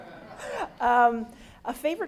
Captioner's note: everyone laughs